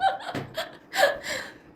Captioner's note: laughs